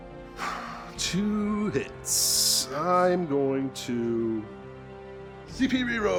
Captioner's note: sighs